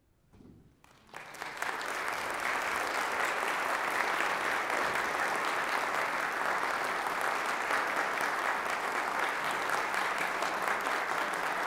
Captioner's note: applause